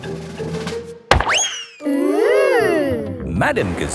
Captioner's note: bang